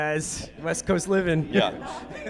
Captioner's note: audience laughing